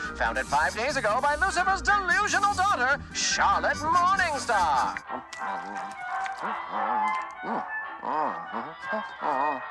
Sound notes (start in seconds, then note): 6.8 Alastor hums